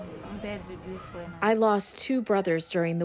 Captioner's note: through translator